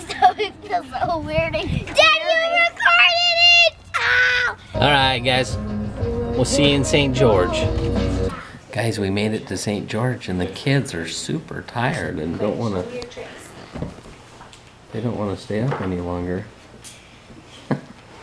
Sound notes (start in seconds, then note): 0.0 laughing; 3.6 yelling; 7.6 rock music